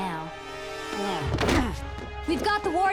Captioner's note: groaning